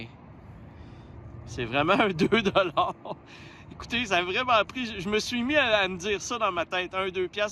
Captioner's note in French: rires